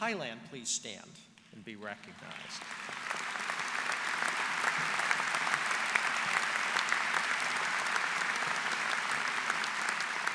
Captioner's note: applause